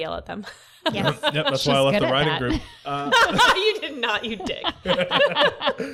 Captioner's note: laughter